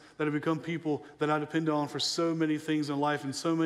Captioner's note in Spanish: none